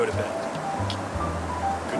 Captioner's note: making kiss noise